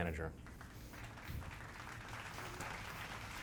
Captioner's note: clapping